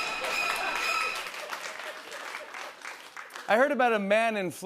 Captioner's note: applause